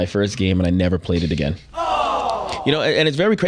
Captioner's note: people groaning